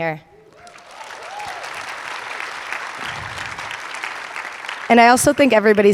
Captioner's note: audience applauding and cheering